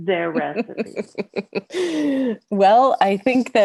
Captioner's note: laughs